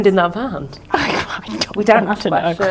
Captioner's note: laughing